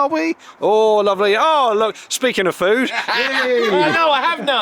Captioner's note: laughter